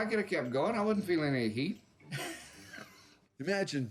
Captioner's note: laughs